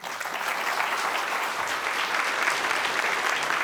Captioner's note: applause